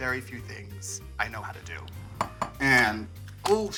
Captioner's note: egg clunking